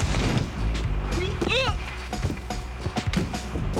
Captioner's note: grunts